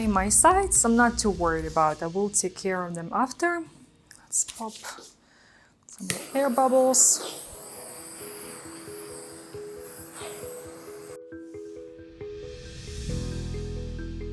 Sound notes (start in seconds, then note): 6.0 gadget hissing; 7.5 gentle music